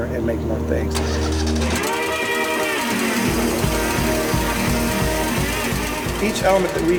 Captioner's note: upbeat instrumental music; machine revs